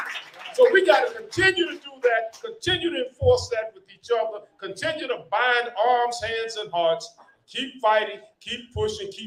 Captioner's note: applause